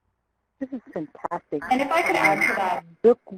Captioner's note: mic feedback